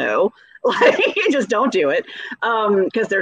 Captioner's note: laughing